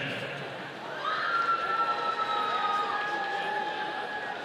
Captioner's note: audience cheering